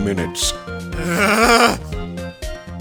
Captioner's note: growling